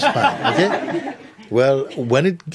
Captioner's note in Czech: smích